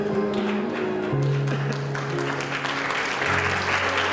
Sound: applause

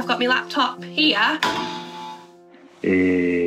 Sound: clang!

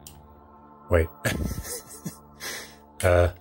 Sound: laughing

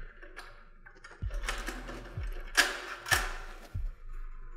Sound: cage door unlocking and opening

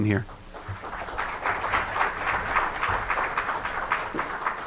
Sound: applauding

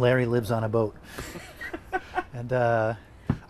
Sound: laughing

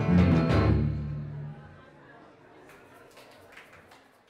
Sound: music stops

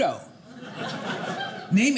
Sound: audience laughing

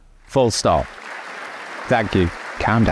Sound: audience applauding

